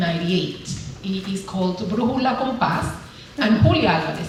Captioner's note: speaking spanish